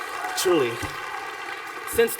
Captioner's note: applause